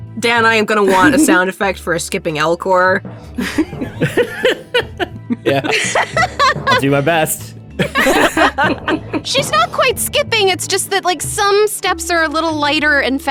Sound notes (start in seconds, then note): 7.8 EVERYONE laughs